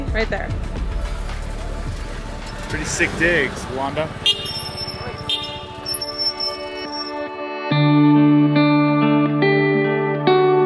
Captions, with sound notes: Right there. - Pretty sick digs, Londa. (cars honking) (reflective music)